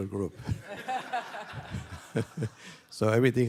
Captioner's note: laughter